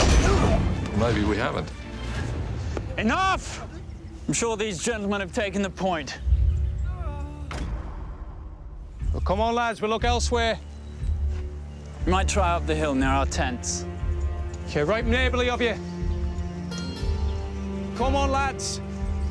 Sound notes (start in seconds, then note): 0.0 men fighting; 6.7 man crying